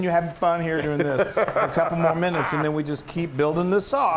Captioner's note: laugh